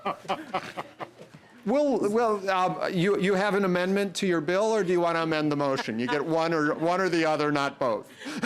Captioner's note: laughter